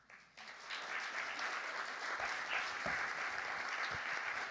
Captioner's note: audience clapping